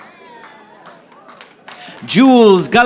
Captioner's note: audience applauding